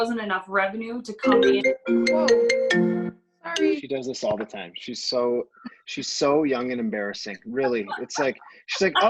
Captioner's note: phone ringing